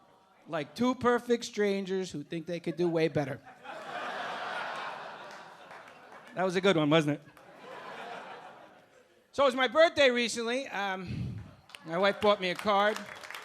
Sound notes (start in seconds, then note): 2.7 audience laughing; 11.7 audience cheering and clapping